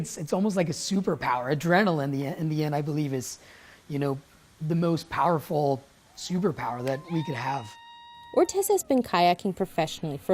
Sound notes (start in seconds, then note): 6.1 group cheering